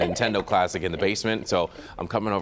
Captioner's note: laughter